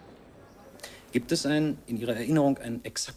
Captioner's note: in German